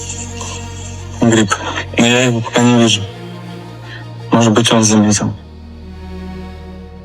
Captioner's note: russian dialogue continues